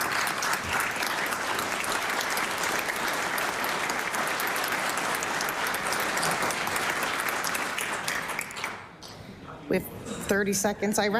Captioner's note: applause